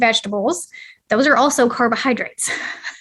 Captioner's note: laughter